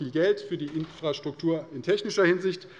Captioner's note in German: none